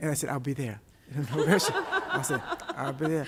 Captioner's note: laughter